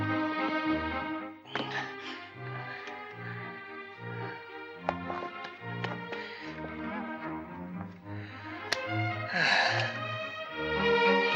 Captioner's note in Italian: sospiri